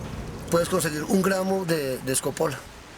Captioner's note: speaking foreign language